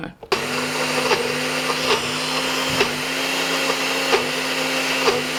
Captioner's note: food processor grinding